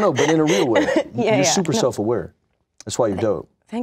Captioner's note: laughs